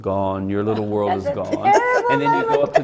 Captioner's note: laughs